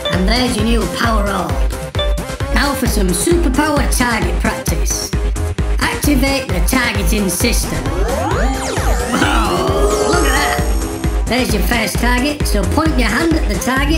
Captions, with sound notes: and there's your new Power Orb! Now for some Superpower target practice. Activate the targeting system. [Futuristic HUD noise] Whoa! Look at that! There's your first target. So, point your hand at the target.